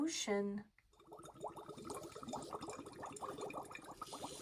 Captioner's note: water gurgles